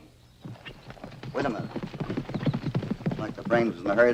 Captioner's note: horse trotting